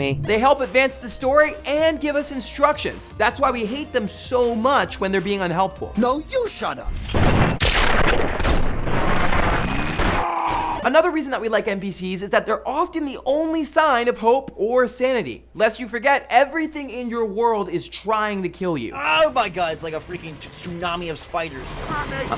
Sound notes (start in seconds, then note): 6.9 explosion